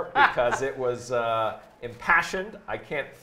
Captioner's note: laughs